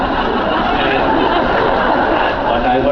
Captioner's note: laughs